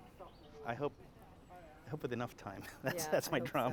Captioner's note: chatter